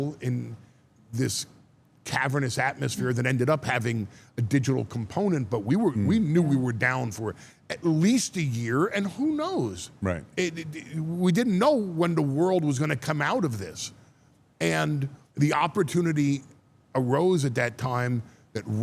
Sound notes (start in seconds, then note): none